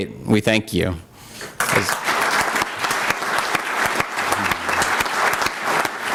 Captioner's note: applause